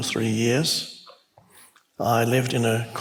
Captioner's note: congregation laughs